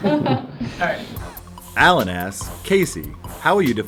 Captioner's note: laughs; voiceover